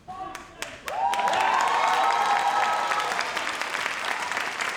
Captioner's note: audience applauds